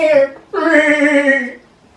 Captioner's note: scared bleat